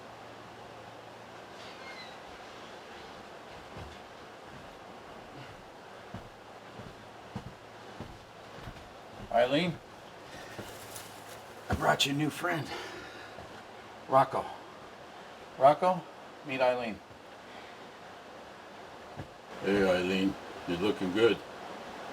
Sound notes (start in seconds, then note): 1.3 door creaks; 7.2 feet thudding; 10.0 leaves rustling